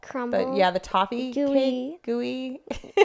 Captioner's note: laughs